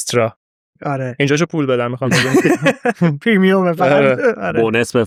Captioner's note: laughs